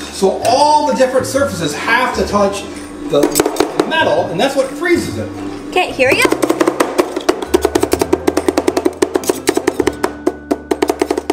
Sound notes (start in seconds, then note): 6.2 spatula chopping